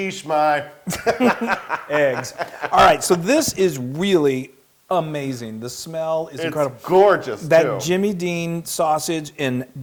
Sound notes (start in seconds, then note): 0.9 laugh